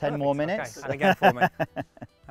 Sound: laughing

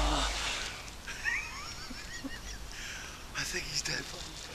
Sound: laughs

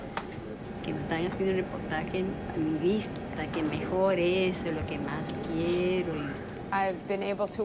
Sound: Spanish

